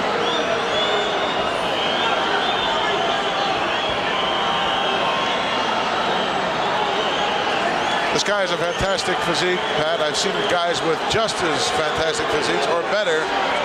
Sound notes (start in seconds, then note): 3.6 audience cheering